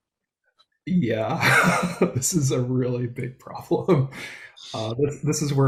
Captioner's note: laughs